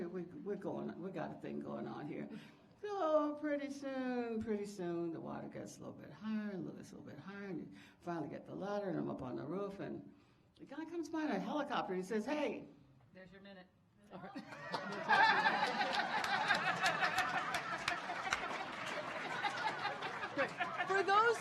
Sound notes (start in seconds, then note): 14.4 audience applauding; 18.5 audience laughing